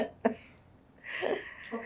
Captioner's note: laughter